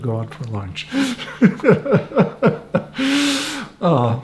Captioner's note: laughing